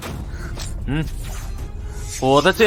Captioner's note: scoffs